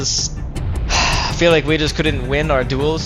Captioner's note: sighs